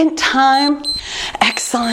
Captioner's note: timer beeps